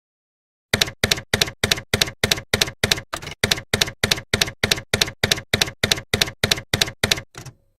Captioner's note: typewriter keys clacking